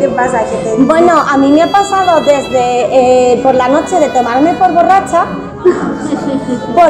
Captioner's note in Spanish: risas